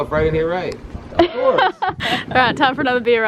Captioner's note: laughs